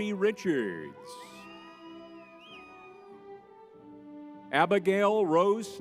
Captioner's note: crowd cheers